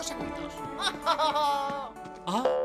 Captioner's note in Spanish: ríe